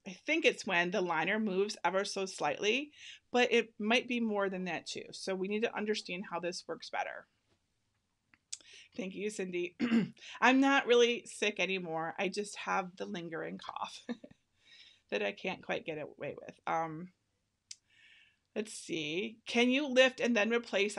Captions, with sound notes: I think it's when the liner moves ever so slightly, but it might be more than that, too. So we need to understand how this works better. Thank you, Cindy. I'm not really sick anymore. I just have the lingering cough (laughing) that I can't quite get away with. Let's see, "Can you lift and then replace